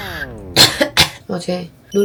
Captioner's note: cough cough